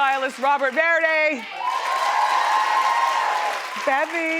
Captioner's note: crowd cheers